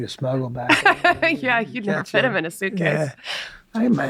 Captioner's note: laughing